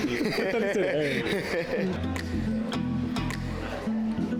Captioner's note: laughing